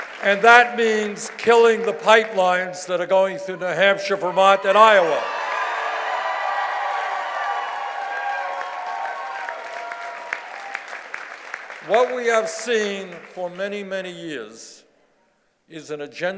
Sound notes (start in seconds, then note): 5.1 cheers and applause